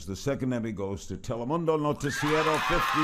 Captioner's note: cheering and applauding